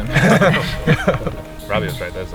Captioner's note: all laugh